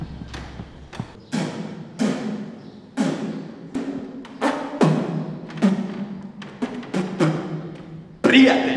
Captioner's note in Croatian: pljuckanje